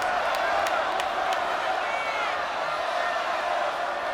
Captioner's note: crowd cheering